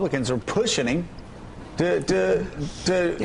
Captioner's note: none